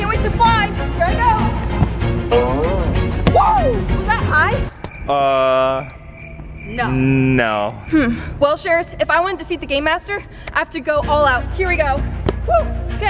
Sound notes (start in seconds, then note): 2.5 spring noise; 3.8 cricket noise